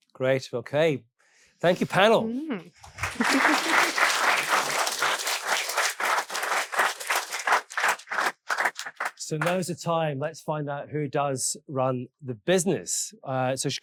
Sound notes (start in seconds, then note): 2.8 audience applauding